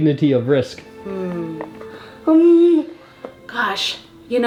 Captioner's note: groans